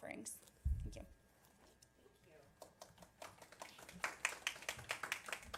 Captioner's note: applause